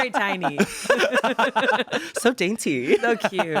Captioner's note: everyone laughs